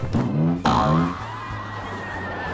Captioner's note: boing boing; riders screaming